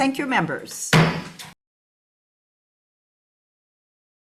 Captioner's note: gavel taps